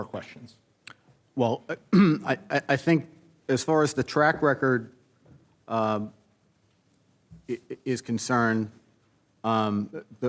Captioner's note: clears throat